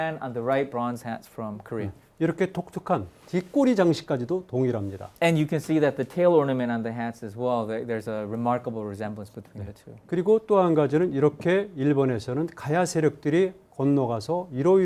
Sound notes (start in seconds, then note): 2.4 speaking in Korean; 10.3 speaking in Korean